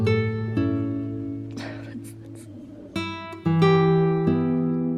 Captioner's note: chuckles